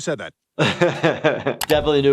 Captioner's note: laughing